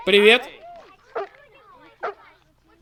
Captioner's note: barking